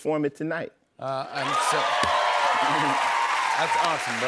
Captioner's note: cheers and applause